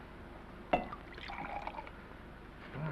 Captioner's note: liquid pours